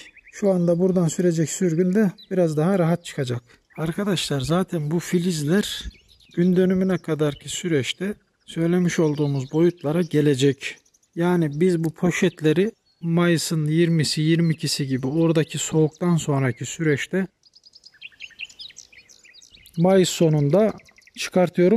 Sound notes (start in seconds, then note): 17.4 bird sounds